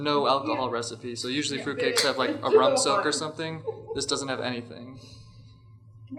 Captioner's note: laughter